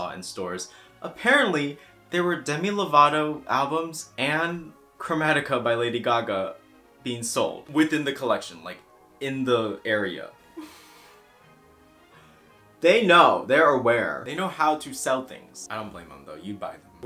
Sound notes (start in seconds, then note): 10.6 ponders in frustration while exhaling